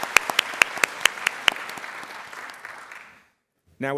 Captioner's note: applause